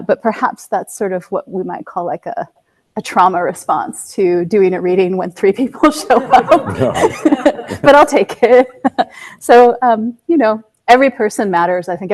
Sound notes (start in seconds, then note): 6.0 all laughing